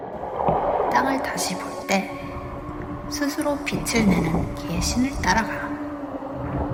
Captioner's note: character speaking in Korean; eerie music; wind blowing